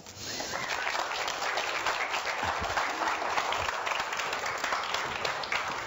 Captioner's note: audience applauding